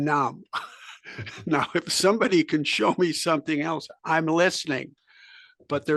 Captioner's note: laugh